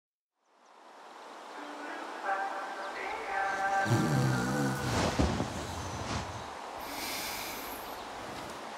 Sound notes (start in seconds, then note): 2.1 dreamlike singing; 2.1 snores